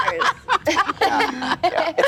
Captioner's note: laughing